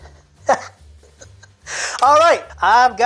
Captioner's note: chuckling